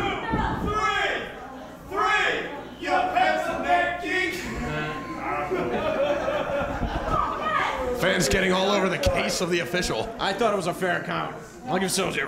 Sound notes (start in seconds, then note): 1.9 fans shouting "you pencil neck geek"